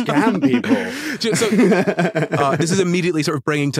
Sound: laughs

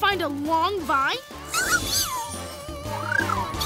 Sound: squeaking

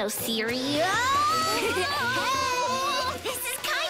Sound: laughing

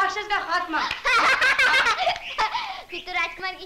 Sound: laughs

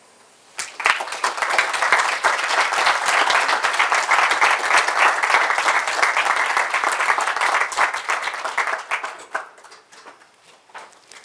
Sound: clapping; pause

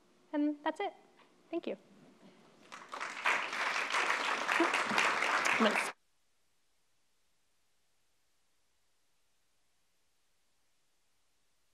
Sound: applause

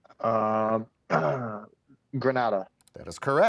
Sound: clears throat

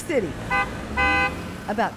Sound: car horn honking

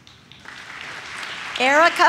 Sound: audience claps

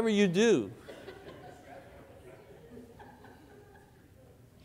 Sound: congregation laughs

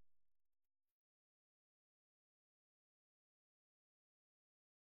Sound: silence

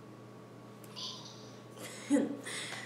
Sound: laughs

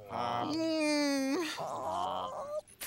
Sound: sobbing

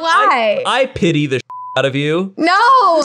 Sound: beep

